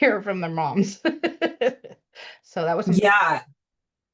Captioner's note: laughs